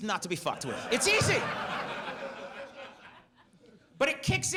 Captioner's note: audience laughs